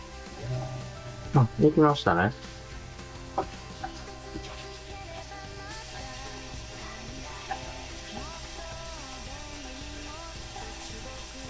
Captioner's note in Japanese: ポンプの音